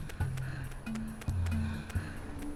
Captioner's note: none